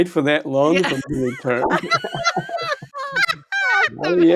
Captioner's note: all laughing